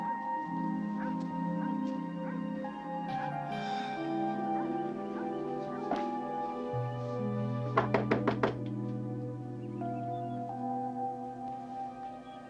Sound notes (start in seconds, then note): 7.7 Nick knocking; 9.6 dramatic music